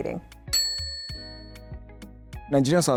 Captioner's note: bell dings